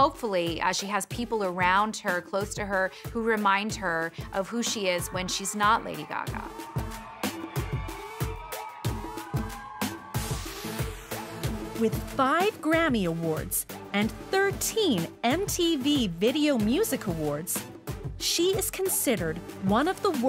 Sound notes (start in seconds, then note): 6.8 crowd cheering; 6.8 upbeat electronic music